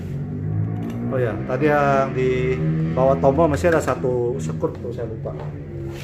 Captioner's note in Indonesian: suara mesin motor